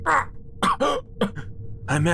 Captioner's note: coughing